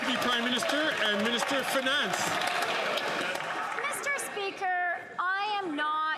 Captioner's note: some Applause